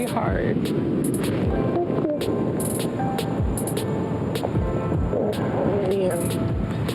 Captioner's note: upbeat music plays; waves splashing